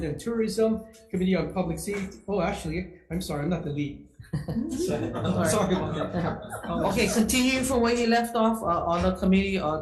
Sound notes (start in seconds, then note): 4.3 laughing